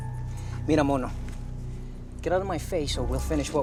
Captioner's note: Rovira speaking Spanish